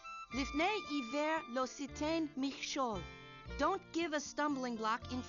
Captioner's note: speaking Hebrew